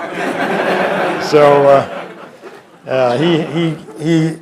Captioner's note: laughter